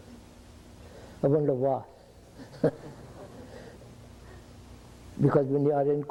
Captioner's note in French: Rires